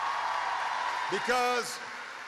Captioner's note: applause